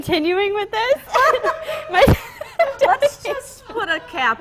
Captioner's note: laughter